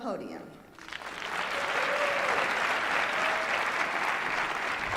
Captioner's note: applause and cheering